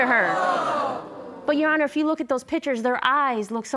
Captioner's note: audience exclaiming